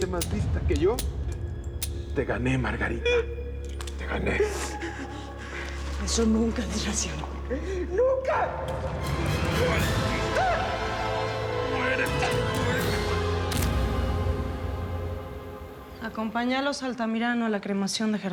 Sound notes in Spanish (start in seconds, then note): 6.1 Sollozos